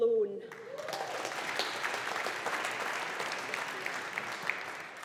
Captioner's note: audience applauding